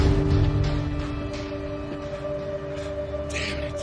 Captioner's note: panting